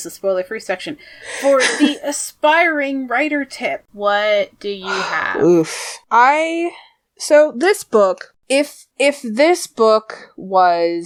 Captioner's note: laughs; sighs